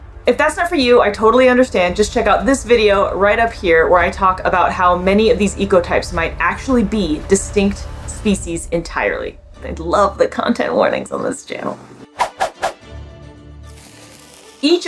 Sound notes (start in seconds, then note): 12.1 background music; 12.1 rapid whooshing sound effects; 13.1 background music